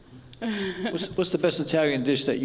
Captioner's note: laughs